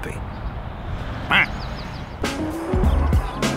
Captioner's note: grunts